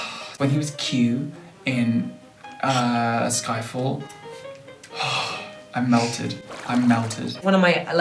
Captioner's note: sigh